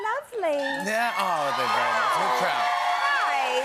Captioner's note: cheers and applause